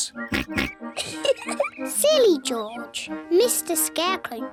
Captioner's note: oinks; giggles